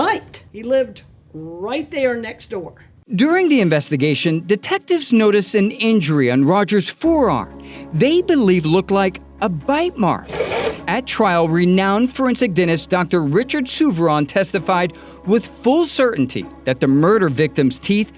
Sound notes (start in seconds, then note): 10.2 slide scrapes